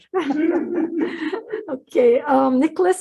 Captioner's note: laughing